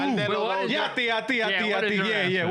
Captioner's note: yelling